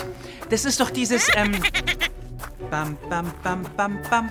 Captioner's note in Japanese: トロルは大声で笑います。